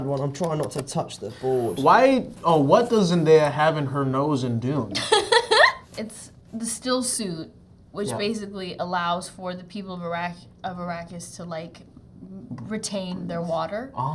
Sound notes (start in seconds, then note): 4.9 Zendaya laughs